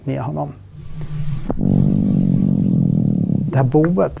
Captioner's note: humming sound